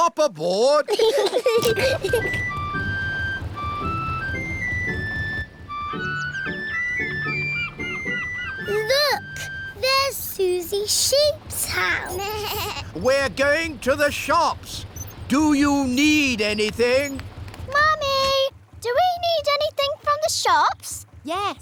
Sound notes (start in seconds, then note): 0.8 peppa and george giggling; 11.9 suzy bleats